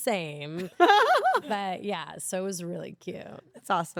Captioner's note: laugh